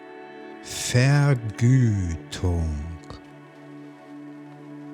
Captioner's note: german